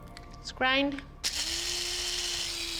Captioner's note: grinding